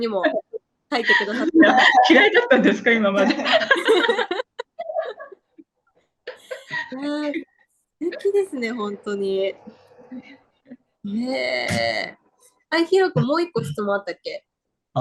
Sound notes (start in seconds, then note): 3.1 laughs